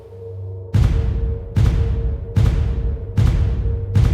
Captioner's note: loud bangs